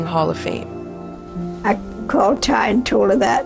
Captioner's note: soundbite of archived recording